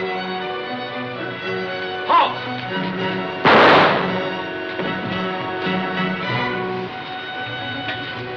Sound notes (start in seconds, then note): 3.4 gunshot bangs